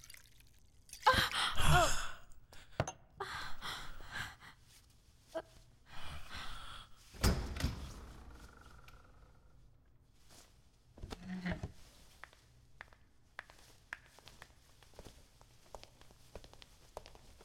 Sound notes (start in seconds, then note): 7.1 door Opens; 15.4 footsteps